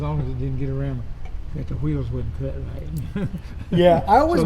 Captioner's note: man laughing